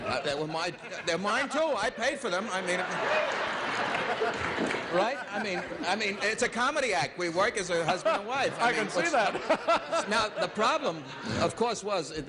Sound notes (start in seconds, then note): 7.7 laughs